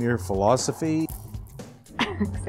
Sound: laughs

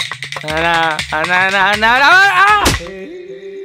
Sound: weeping

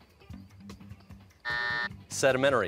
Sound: buzzer

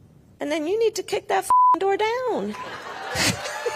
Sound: beep; audience laughs and cheers; Kamala laughs

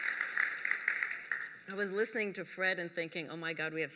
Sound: applause

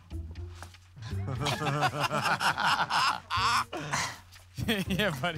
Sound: laughter

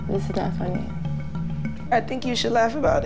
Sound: none

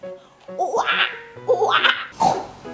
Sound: monkey sounds; oinking

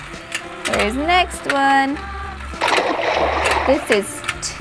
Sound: water splashes

